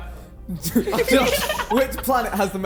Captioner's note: men laughing